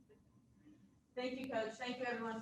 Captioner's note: woman's Voice